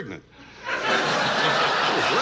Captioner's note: audience laughs